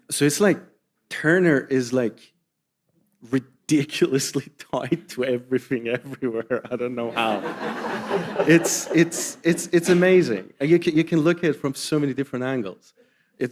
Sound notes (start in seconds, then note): 7.0 audience laughing